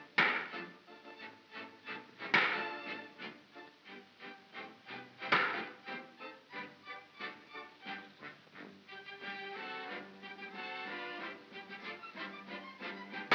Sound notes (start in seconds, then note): 0.2 bang; 2.3 bang; 5.3 bang; 7.3 soft whimsical music